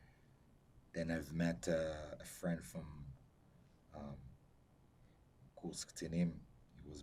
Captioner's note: hebrew